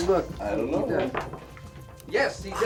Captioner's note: dice clatter